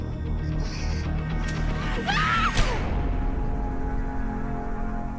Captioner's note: Raven screams